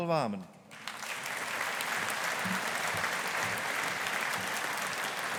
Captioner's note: audience applauding